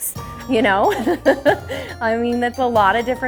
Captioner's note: laughs